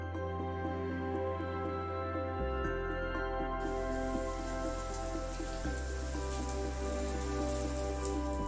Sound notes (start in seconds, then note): 3.6 water pattering